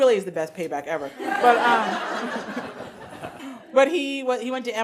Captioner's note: audience laughing